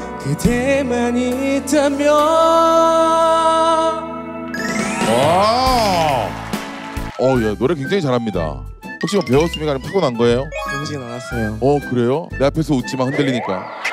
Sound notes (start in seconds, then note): 5.0 applaud